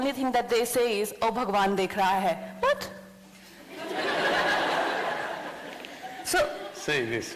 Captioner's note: laughter